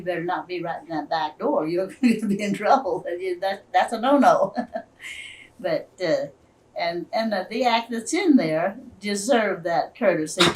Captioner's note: laughs